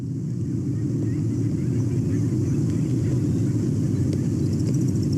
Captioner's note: birds chirping